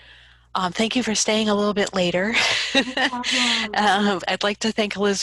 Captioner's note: laughs